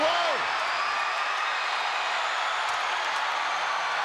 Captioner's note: crowd cheering